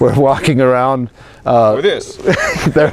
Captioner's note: laughter